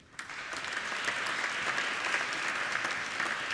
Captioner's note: applauding